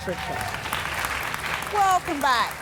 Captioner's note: audience applauding